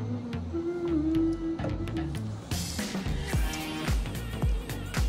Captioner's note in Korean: 허밍과 함께하는 여유로운 시간